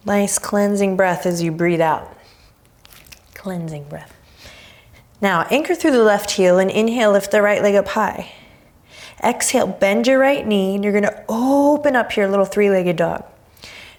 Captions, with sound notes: Nice cleansing breath, as you breath out. Cleansing breath. Now, anchor through the left heel and inhale, lift the right leg up high. (deep breaths) Exhale. Bend your right knee. And you're gonna open up your little three-legged dog.